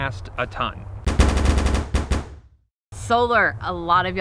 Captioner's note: thudding